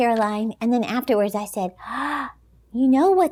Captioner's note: gasps